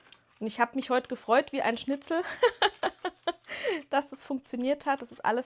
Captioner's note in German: gelächter